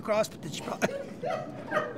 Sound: laughs; laughter

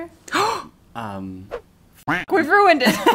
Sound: gasping; swooshing; duck quacking

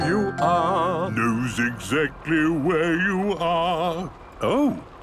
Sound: mimicking tune

